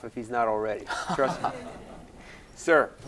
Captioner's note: laughing